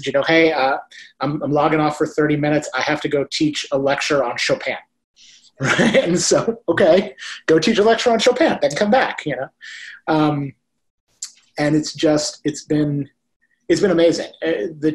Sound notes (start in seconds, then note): 5.6 laughs